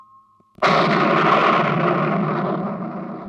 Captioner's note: thunder rumbling